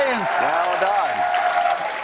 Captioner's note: cheers and applause